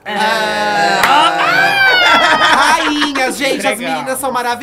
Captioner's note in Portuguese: risos